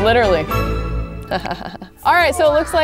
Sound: chuckles

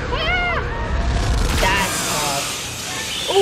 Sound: woman yelling

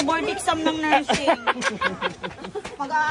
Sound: laughs

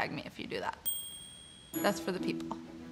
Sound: bell dings

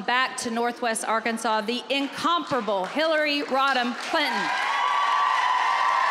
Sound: applause

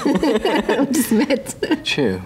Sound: laughing; laughs

